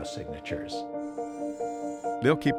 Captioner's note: rover buzzing